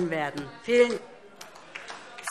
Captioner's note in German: Beifall DIE LINKE - Zurufe